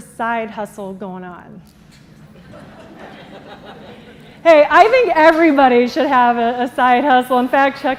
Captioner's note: laughter